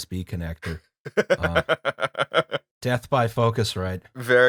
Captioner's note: laughter